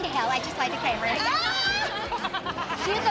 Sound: laughter

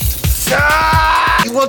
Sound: roars

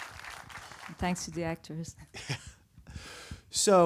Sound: audience applause; laughs

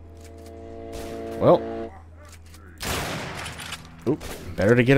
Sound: bam

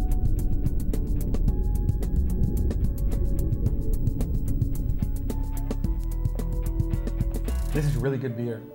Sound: underwater bubble sounds

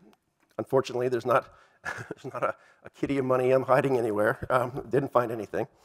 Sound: laugh

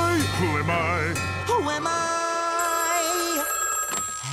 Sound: phone rings

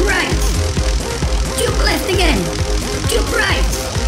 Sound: crackling electricity

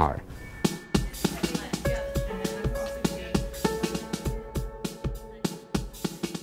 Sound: gentle rhythmic music; students chattering

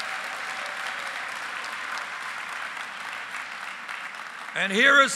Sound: applause

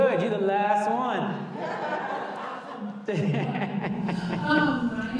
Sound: audience laughing

